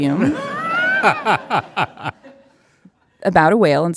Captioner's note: audience laughing